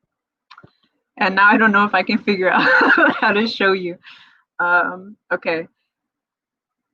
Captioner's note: laughs